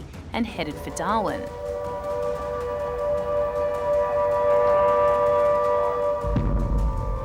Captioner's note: sirens blare